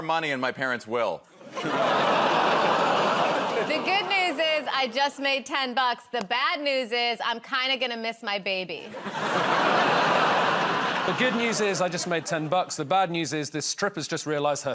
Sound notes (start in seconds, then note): 1.4 laughter; 8.9 laughter